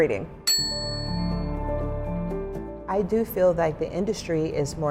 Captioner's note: light music; bell ringing